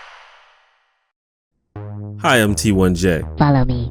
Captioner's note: weird voice